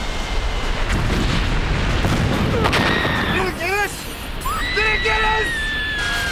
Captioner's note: wheels Thumping